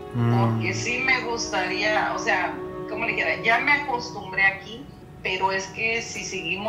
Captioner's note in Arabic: تتحدث بلغة أجنبية